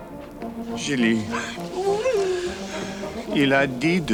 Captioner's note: Jilly whimpers; John speaks French